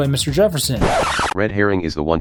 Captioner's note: record scratch